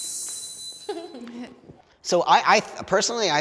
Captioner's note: participant giggles